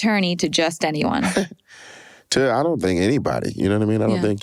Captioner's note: chuckles